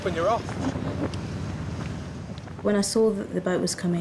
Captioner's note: wind gushing